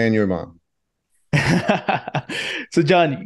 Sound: laughing

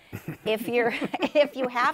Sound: laughter

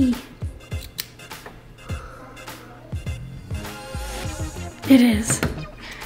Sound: key clicks into place

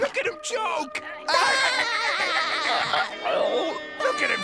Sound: laughing

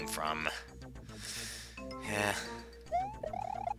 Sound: breathing

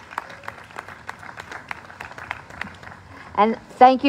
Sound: applause

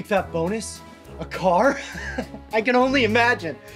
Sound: laughs

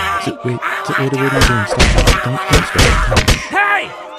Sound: objects thrown

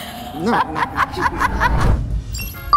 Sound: laughs; upbeat music

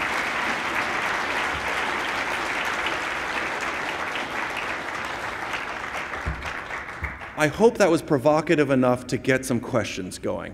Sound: applause

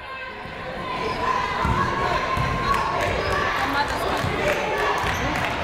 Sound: people shouting in the crowd

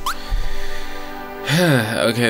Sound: exhaling

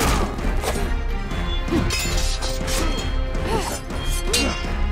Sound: none

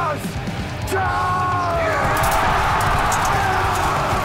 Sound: battle Cries

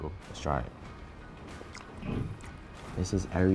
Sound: smacking lips

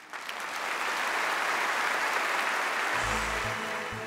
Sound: audience applauding

